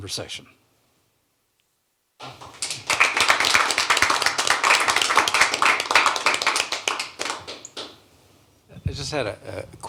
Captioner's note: applause